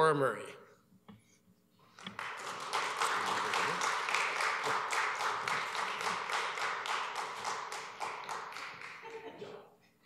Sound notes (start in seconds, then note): 2.0 applause